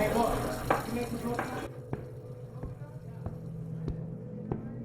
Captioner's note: shoes thudding